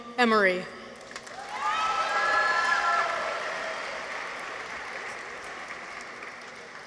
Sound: people cheer; audience applauds

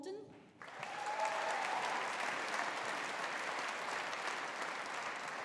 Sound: audience applauding

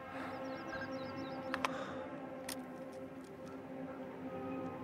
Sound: birds chirping; gentle music

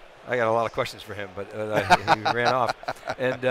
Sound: laughs

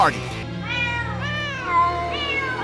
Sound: meowing

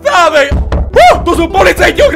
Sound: knock Knock Knock

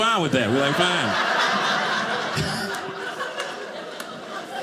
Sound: audience laughing

